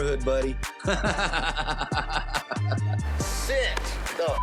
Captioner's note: laughs